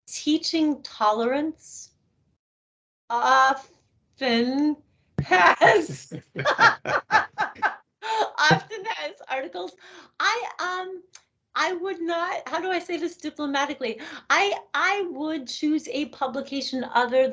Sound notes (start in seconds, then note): 5.2 laughing